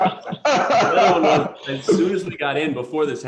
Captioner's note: laughter